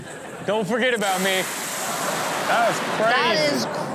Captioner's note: audience gasps